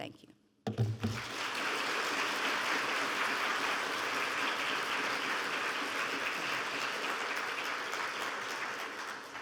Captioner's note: clapping